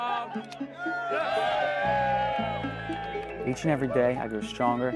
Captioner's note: crowd cheers